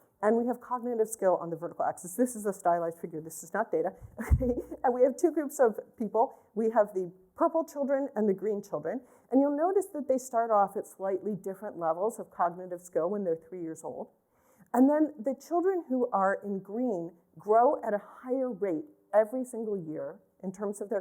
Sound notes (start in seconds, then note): 4.2 laughter